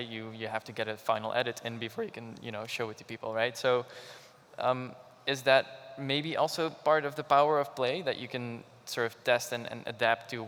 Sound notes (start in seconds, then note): none